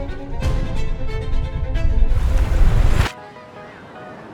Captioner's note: air whooshing